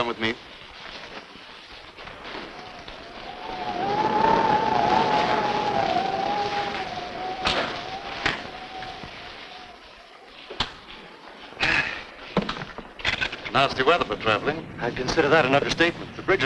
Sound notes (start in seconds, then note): 2.6 rain pattering; 2.6 wind howling; 11.6 Allen sighs